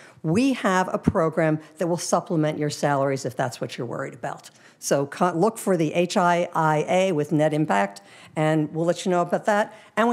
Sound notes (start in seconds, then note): none